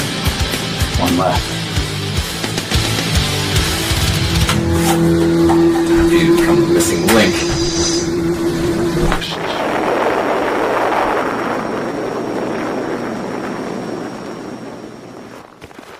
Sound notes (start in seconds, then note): 9.0 kaboom